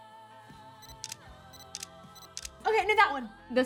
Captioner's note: camera shutter clicking